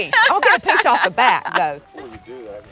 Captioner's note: laughs